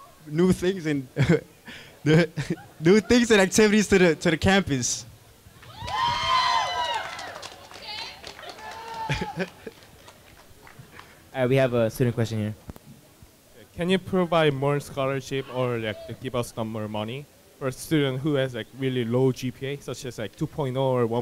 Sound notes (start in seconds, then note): 5.5 crowd cheering